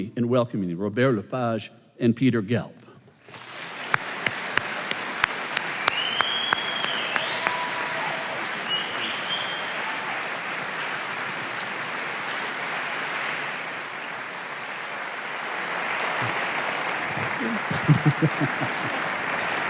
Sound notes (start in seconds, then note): 3.4 applause